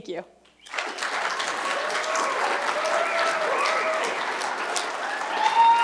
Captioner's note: cheers and applause